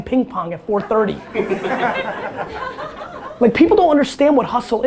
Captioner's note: audience laughter